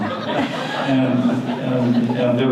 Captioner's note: audience laughter